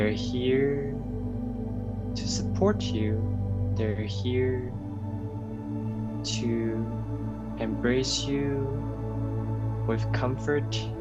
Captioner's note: light language